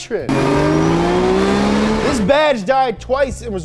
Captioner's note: car revving